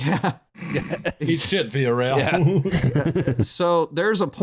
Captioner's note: laughing; snorts; laughter